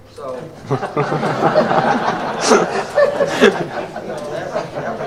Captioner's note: laughter